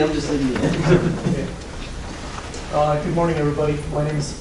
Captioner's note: laughing